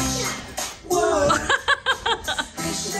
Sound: laughing

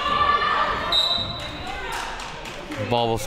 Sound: whistle being blown

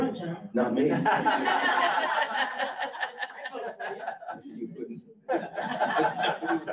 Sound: all laugh

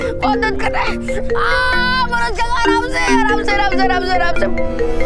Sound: screams

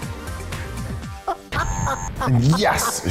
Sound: laughs

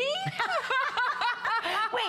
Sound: laughter

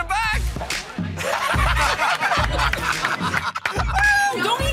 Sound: laughing; clapping

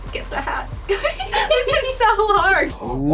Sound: laughs

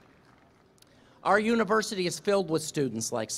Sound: applause

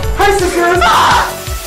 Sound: screams lol

